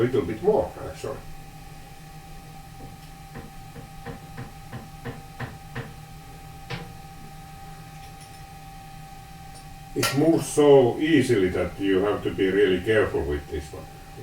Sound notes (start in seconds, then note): 3.1 light knocking sound